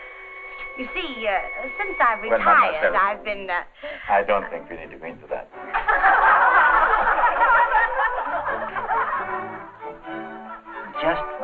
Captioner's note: laughter